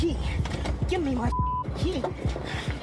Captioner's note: beep